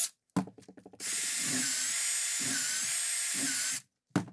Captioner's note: drill whining